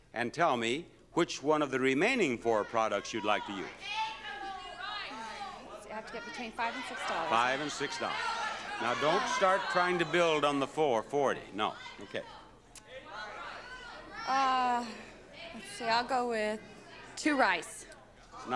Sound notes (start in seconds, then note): 4.6 crowd shouting